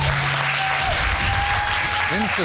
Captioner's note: audience applauding